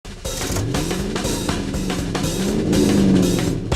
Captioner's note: SFX: Car engine reve